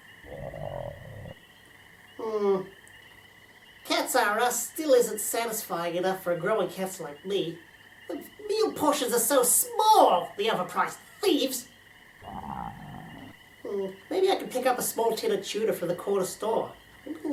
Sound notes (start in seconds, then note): 12.2 stomach growling again